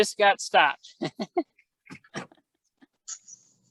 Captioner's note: laughter